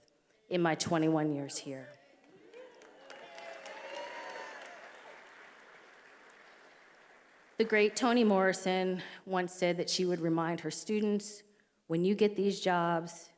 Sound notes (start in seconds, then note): 2.2 attendees applauding and cheering